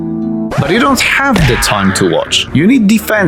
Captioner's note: record scratch